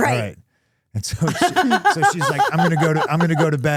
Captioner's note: Stephanie laughing